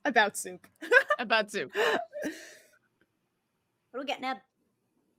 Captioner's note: laughs